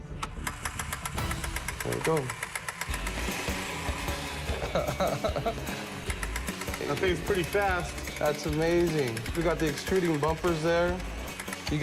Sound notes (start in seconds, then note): 2.3 engine starts; 7.0 chuckles